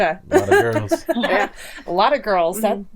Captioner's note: laughing